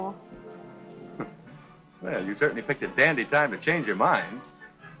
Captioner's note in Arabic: يضحك